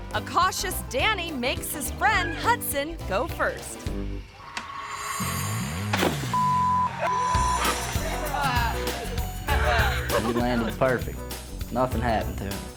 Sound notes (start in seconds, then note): 4.9 suspenseful music; 6.3 beep; 6.9 friends cheering